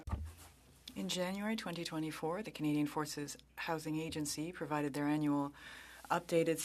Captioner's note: speaking French